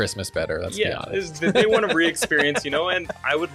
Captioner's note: laughs